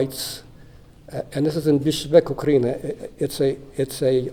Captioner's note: non-english